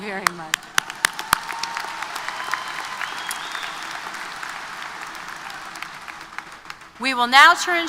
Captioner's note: applause